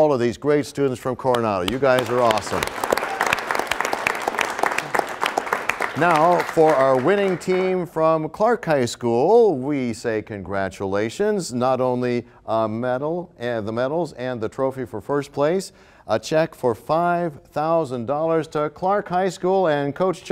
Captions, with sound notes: and all of these great students from Coronado. You guys are awesome. (applause) Now for our winning team from Clark High School, we say congratulations with the medals, the trophy for first place and a check for $5,000 to Clark High School